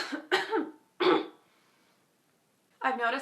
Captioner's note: coughs; clears throat